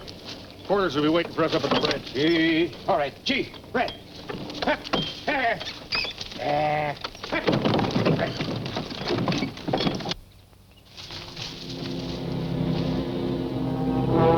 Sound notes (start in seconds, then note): 8.3 cart rattling; 11.0 suspenseful music